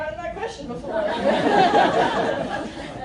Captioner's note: laughter